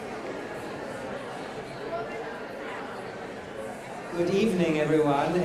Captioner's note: audience chattering